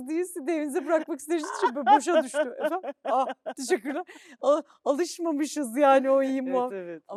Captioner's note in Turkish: kahkaha